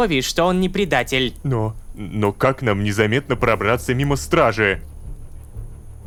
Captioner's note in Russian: шепотом